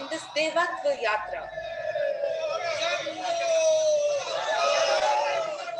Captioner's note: cheering